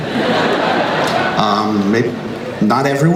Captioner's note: crowd laughs